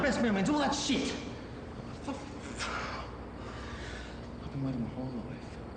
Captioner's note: exhales loudly